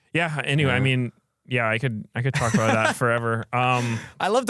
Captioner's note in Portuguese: risos